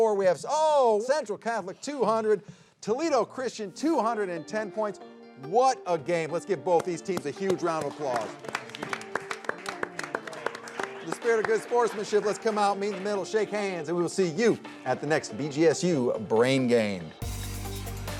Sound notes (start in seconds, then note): 7.1 group clapping; 17.9 upbeat music